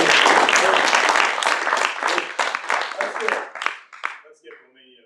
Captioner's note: audience applauds